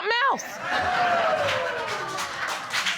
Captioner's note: audience laughing; audience applauding